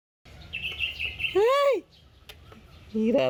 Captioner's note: shouts